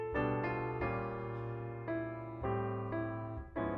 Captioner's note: none